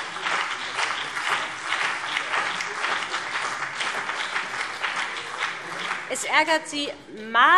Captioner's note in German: Beifall BÜNDNIS 90/DIE GRÜNEN und CDU